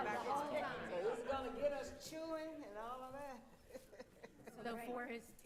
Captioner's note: laughing